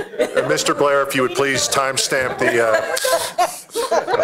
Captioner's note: laughter